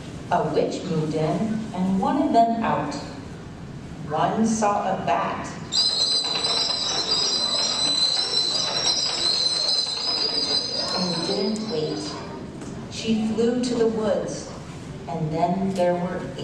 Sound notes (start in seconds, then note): 5.7 high pitched bat sound